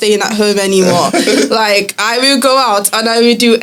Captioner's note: laughter